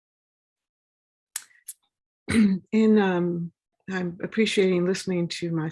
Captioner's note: cough